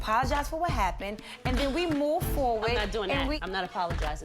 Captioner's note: laughs